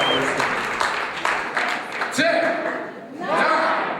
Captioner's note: applause